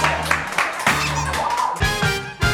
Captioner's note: excited